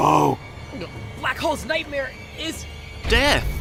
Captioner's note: gulp